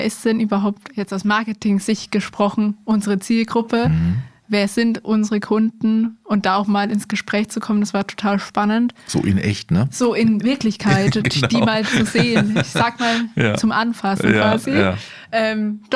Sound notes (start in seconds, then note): 10.7 laughter